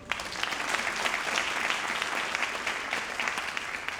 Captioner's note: audience applauding